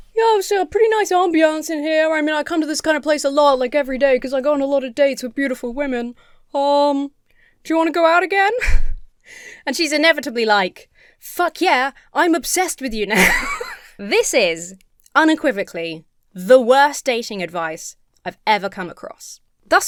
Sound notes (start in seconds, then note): 9.0 chuckles; 13.1 laughs